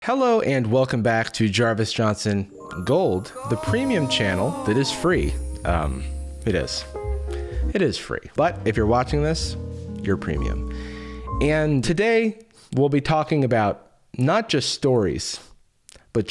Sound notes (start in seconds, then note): 3.5 disembodied voice